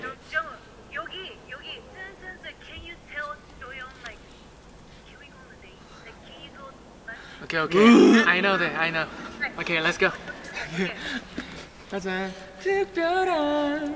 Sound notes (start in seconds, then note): 7.7 gagging